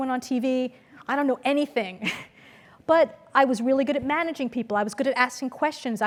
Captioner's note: laugh